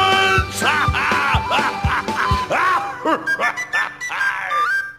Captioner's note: Ha! -Ha! -Ha! -Ha! -Ha!